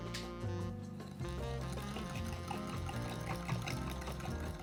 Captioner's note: whisking